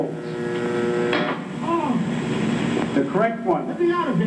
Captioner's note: clicking; man yelling